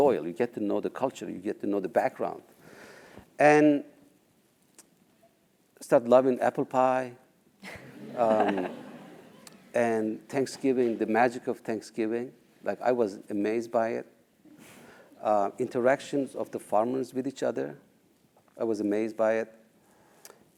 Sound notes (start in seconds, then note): 7.6 laugh